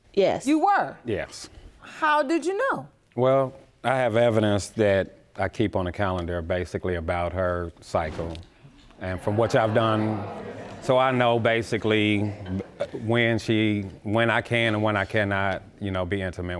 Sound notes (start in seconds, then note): 9.1 audience groans